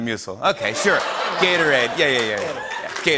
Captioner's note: laughter